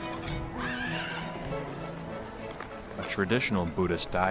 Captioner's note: child screams